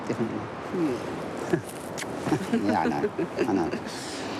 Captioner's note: chuckles